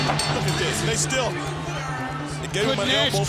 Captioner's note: bell ringing